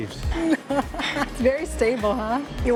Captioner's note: laughs